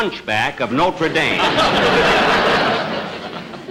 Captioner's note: audience Laughing